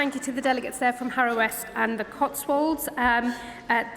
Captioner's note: applause